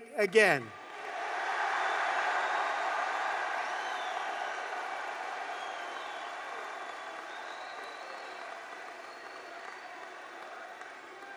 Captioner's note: applause